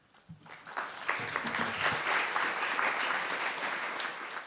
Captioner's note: audience applauds